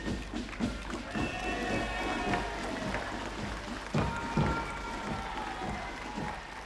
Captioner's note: applauding; crowd cheering